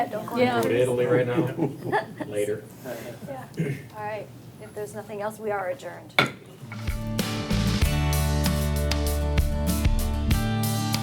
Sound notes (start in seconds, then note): 6.6 gavel bangs; 6.8 upbeat music